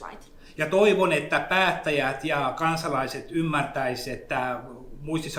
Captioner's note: speaks in Finnish language